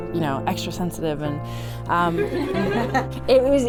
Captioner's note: everyone laughs